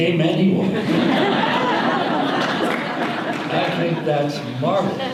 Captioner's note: audience laughter